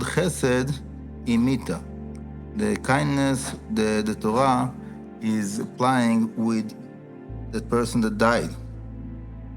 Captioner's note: aramaic